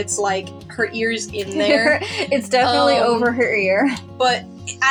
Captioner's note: laughing